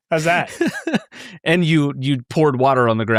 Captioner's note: laughing